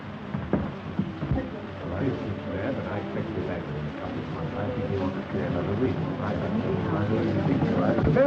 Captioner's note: party-goers chatting